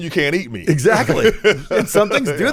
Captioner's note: laughs